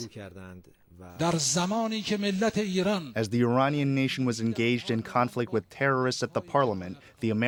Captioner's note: through translator